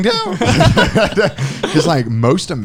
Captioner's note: laughing